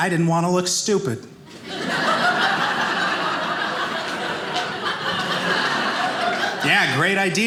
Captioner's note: audience laughing